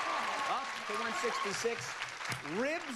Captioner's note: crowd cheers